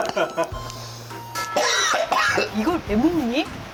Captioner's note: gasp